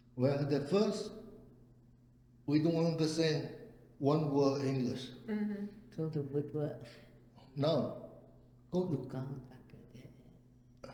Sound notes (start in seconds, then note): 7.6 speaking Cantonese